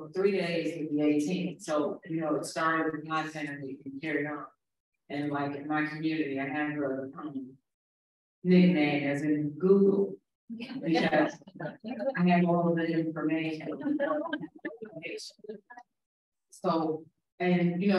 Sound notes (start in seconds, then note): 12.7 laughs